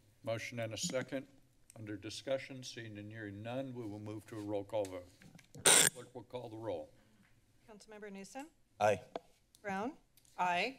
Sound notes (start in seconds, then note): 5.6 screeching noise